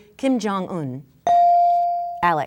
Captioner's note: bell dinging